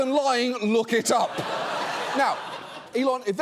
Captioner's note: audience laughing